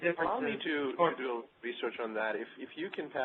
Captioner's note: voiceover